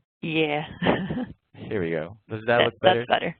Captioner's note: laughs